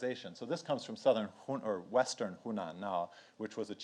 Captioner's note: speaks in foreign language